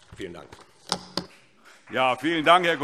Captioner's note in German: Beifall SPD